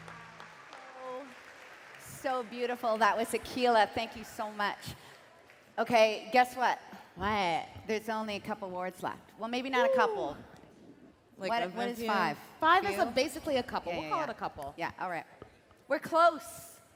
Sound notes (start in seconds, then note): 4.8 applause